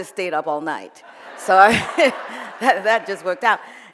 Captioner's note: audience laughs